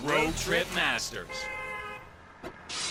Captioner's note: car horn; breaking glass